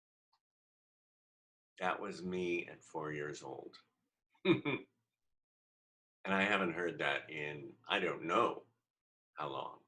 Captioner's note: giggle